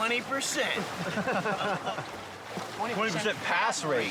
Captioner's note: instructors laugh